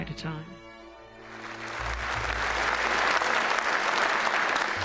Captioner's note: applause